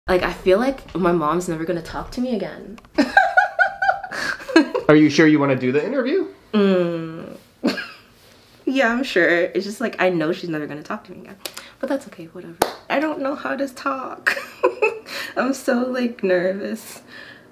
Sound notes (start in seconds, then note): 3.0 interviewee laughs; 6.6 interviewee hums; 14.8 laughs